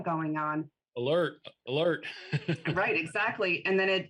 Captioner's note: laughs